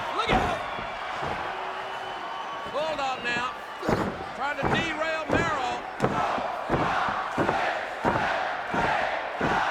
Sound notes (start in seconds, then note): 6.1 crowd counting